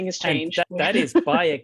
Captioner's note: laughs